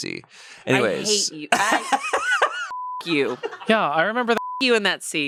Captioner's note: laughs